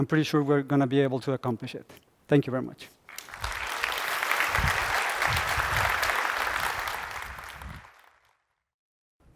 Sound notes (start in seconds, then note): 3.0 applause